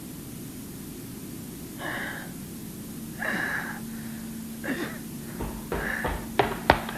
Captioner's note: gasping